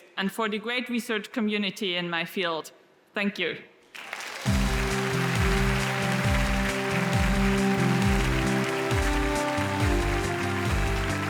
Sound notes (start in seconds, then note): 3.9 audience applauds; 4.4 wondrous music